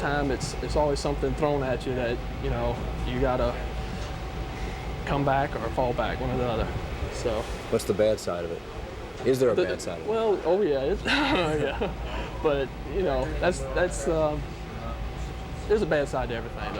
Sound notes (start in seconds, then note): 11.0 laughter